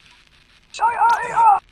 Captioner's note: screams of discomfort